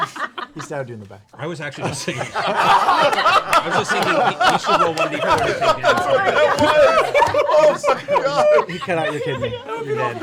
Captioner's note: laughter